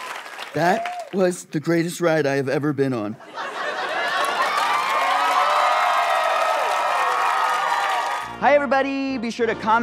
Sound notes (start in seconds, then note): 0.0 audience applause; 3.8 audience cheering